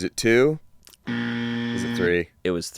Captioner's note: buzzer blares